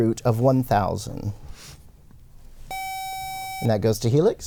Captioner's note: buzzer